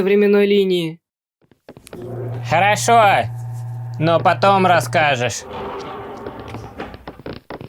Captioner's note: footsteps; elevator motor humming; steps